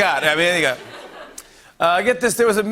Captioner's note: laughter